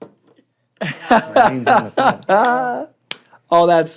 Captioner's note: laughs